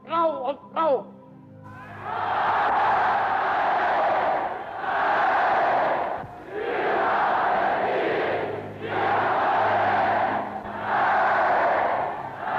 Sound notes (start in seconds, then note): 2.6 chanting